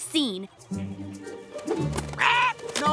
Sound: squawking

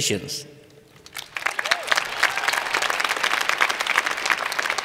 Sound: cheers and Applause

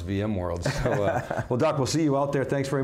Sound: laughs

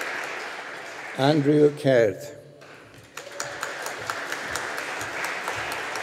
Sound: audience applauding

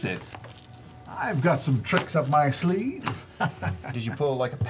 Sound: laughs

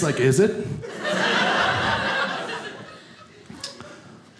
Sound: audience laughing

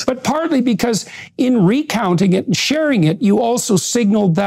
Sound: none

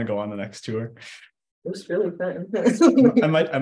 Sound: laughs

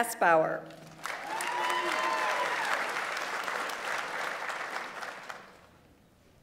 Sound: audience applauds; audience members cheer

